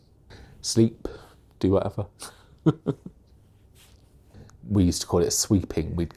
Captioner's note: chuckles